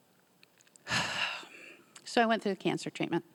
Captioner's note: sighing